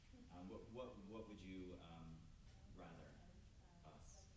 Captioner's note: stammers